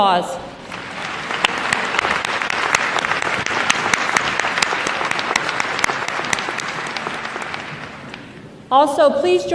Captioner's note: applause